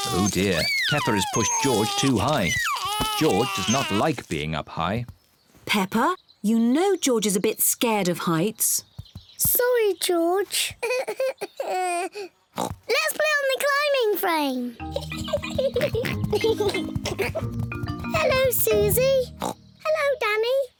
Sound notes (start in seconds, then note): 11.1 whimpers; 12.6 oinks; 14.8 oinks and giggles; 14.8 giggles; 18.7 oinks